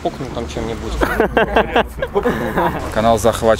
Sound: laughing

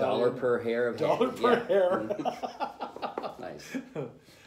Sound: laughter

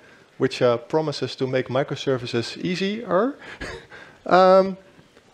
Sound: chuckles

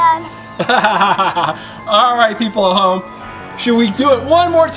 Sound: laughs

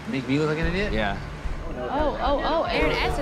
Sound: crowd murmuring

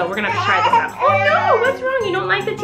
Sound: baby cries

